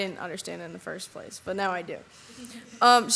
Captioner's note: audience laughs